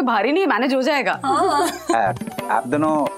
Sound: chuckles

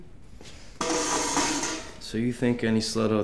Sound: bucket clatters

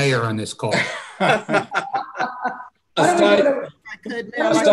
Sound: laughing

